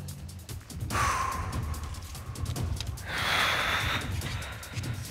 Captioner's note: both exhales heavily